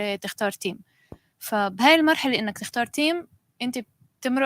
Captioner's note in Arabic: لغة أجنبية; لغة أجنبية